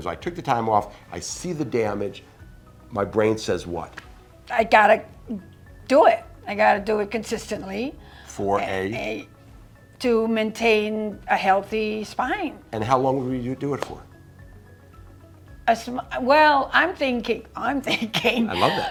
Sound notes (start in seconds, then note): 17.9 laughs